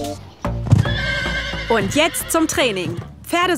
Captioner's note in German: Wiehern